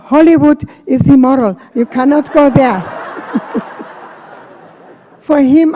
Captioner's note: laughter